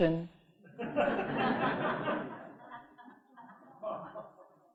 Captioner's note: audience laughing